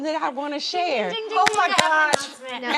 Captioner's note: mimics bell ringing